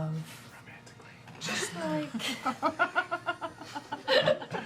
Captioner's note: whispered